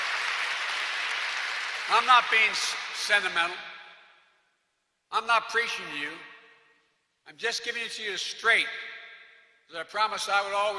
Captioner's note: applause